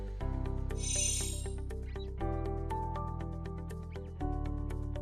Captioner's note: chimes tinkling